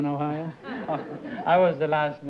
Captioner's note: laughter